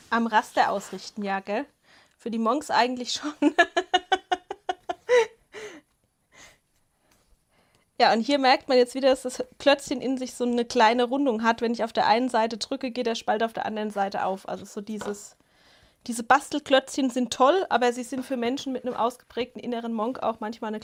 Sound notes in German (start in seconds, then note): 3.3 Gelächter; 5.5 japst